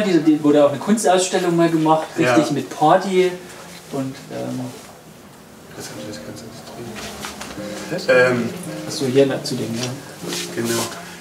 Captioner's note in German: Gemurmel